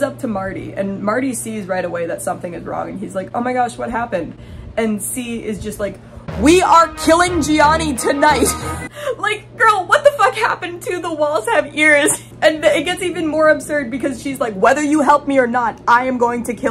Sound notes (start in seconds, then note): 6.0 yelling; 6.2 intense music; 8.2 laughing